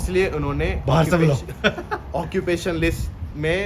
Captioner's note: laughter